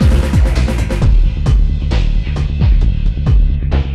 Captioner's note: none